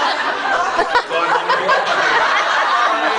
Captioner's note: laughs